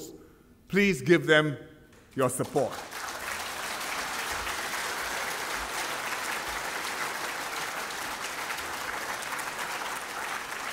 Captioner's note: applause